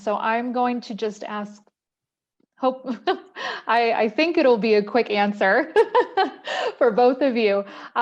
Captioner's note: laughter